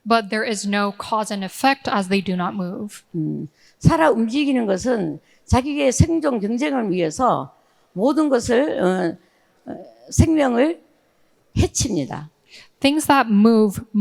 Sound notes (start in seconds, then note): 3.9 speaking in foreign language